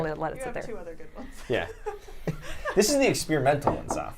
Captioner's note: laughs